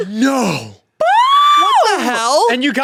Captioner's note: cheers